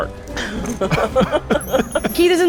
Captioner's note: all laugh